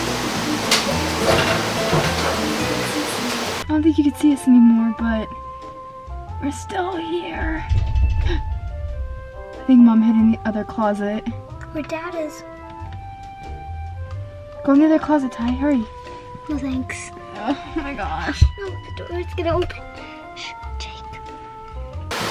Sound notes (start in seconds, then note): 7.4 doors rattle; 17.7 groans